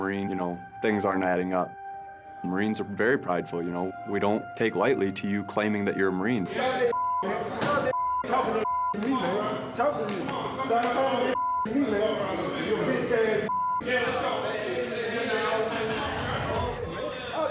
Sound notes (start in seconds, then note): 13.8 indistinct chatter